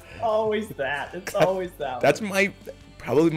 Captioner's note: laugh